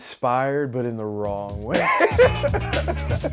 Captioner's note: ^laughter^